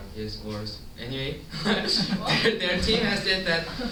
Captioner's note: chuckles